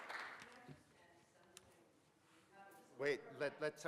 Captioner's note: participant faintly speaking